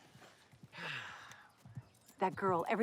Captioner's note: Jonathan sighs